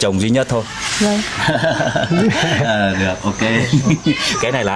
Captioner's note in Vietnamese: tiếng cười